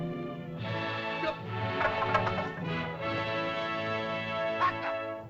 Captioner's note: Tumak shouts in caveman language; triumphant music; spears clatter; Tumak shouts in caveman language